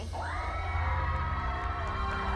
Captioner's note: cheers